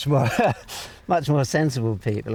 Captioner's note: laughs